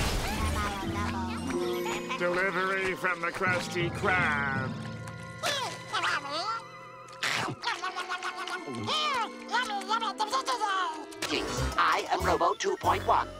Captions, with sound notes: [gibbering] Delivery from the Krusty Krab. [gibbering] [munching] Mmm! Yummy yummy! [gibbering] I am Robo 2.1,